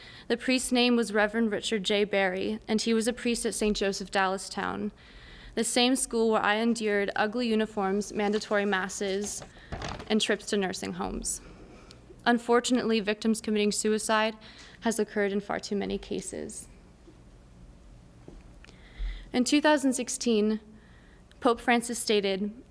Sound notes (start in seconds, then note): none